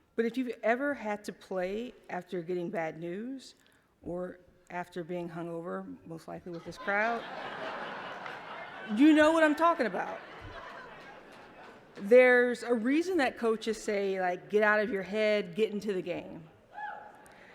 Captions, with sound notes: But if you've ever had to play after getting bad news or after being hung over, most likely with this crowd, you know what I'm talking about. (laughter) There's a reason that coaches say, "Get out of your head, get into the game."